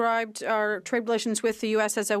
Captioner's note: speaking French